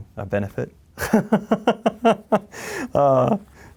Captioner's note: laughs